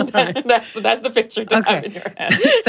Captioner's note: laughing